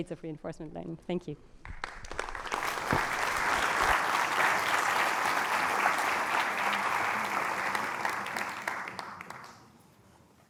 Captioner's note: applause